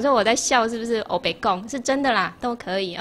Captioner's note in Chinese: 台語